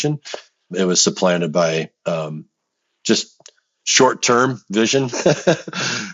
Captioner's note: laughs